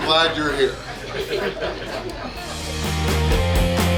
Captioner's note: hahaha